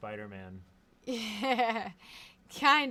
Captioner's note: laughs